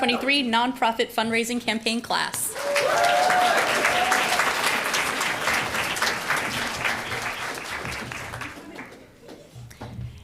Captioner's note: applause